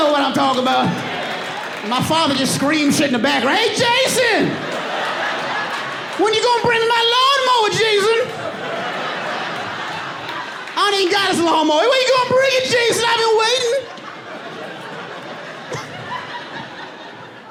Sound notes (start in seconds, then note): 0.6 audience laughing; 4.6 audience laughing; 10.7 audience laughing; 13.5 laughs